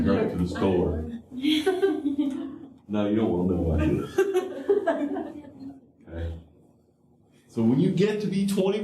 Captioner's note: laughter